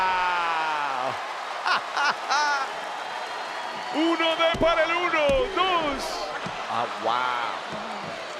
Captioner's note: laugh